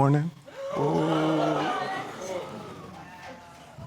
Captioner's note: audience gasping; audience murmuring